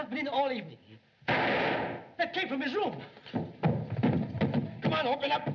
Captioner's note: gunshot